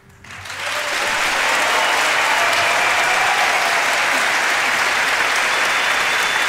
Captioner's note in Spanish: aplausos